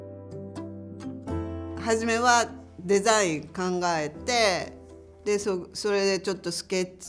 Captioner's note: speaking native language